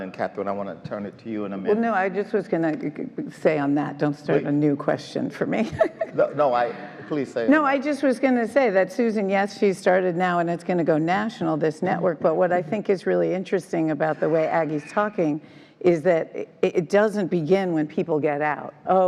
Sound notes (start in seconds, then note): 5.6 laughs